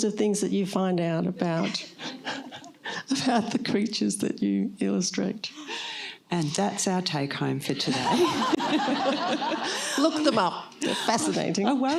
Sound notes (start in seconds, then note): 7.8 laughter